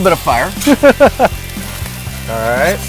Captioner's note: laughing